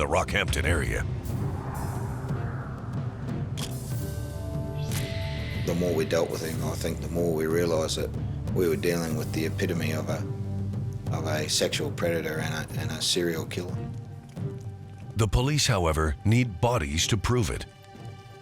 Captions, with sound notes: IN THE ROCKHAMPTON AREA. (camera shutter click) THE MORE WE DEALT WITH HIM, I THINK, THE MORE WE REALIZED THAT WE WERE DEALING WITH THE EPITOME OF A... OF A SEXUAL PREDATOR AND A, AND A SERIAL KILLER. THE POLICE, HOWEVER, NEED BODIES TO PROVE IT.